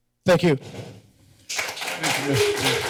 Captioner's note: applause